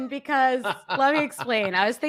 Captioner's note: chuckles